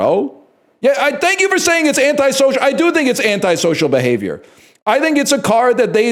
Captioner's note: shouts